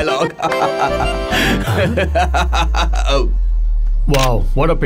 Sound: laughing

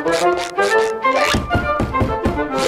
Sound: knocking

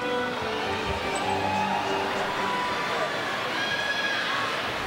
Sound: students cheering

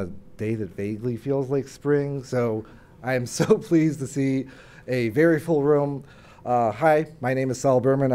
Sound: laugh

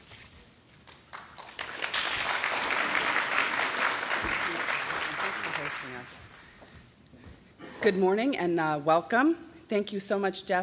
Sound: applause

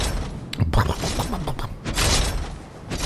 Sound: gurgling

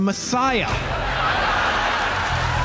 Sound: audience laughs

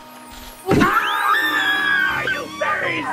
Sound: screams

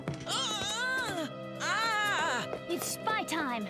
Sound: groaning

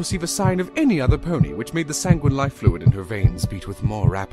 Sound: none

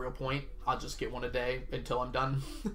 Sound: laughs

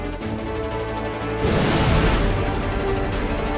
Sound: whooshing sound

